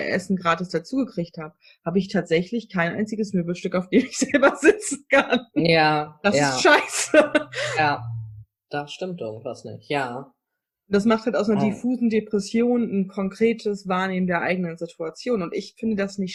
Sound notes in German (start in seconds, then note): 5.5 lacht